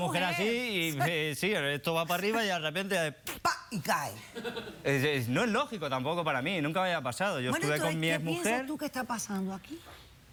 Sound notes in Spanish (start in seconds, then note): 4.3 risas